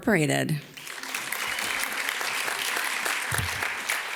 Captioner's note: audience claps